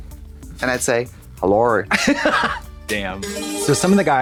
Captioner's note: Katya chuckles; bright chime